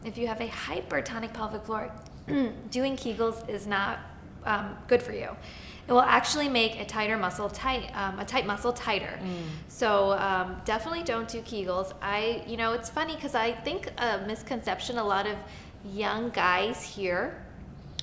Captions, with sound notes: If you have a hypertonic pelvic floor (clears throat) doing kegels is not good for you. It will actually make a tighter muscle tight, um, a tight muscle tighter. So definitely don't do kegels, I- you know it's funny cause I think a misconception a lot of young guys hear,